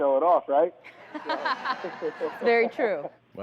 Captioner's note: audience laughing